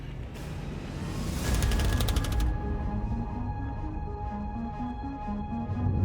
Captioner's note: tense energetic music; text clicking